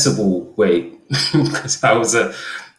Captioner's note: laughs